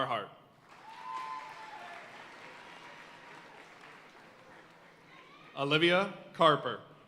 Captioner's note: audience cheering and applauding